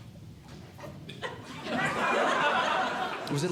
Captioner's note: audience Laughing